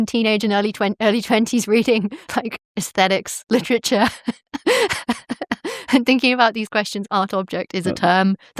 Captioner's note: chuckles